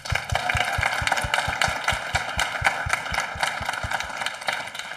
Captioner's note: audience applauding